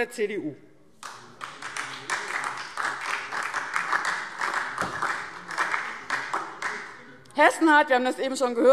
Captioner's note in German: Beifall